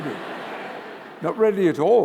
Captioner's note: laughter